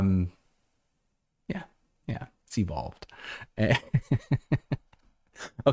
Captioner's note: laughter